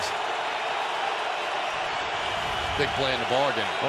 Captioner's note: cheering